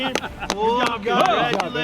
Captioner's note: clapping